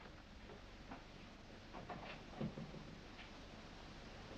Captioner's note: door closes